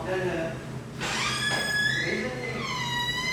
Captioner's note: the sound of opening the door